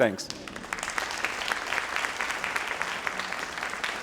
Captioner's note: crowd applauding